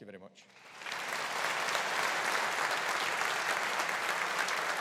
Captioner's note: audience applauding